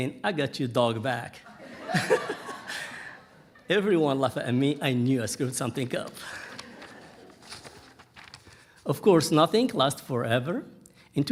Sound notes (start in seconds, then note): 1.5 audience laughing; 5.4 pages rustling